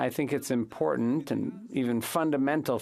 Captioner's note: speaking French